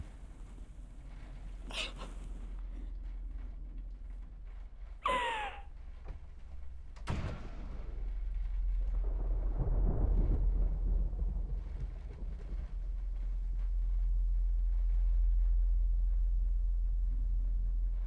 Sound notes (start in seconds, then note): 1.6 sobbing; 9.1 thunder rolling